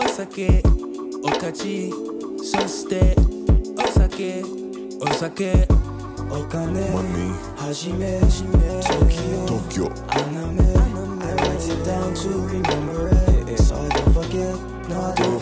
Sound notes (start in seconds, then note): none